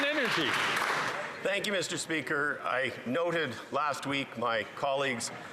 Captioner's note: some Applause